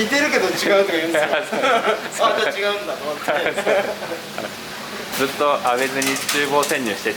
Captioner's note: laughs